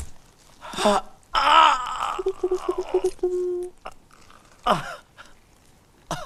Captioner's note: shouts, groans